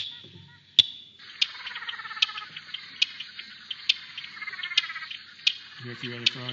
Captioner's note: sound of frog calls